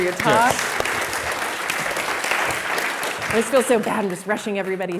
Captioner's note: audience applauds